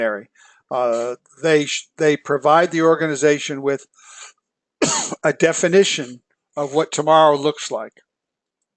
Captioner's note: cough